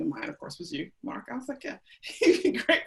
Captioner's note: laughs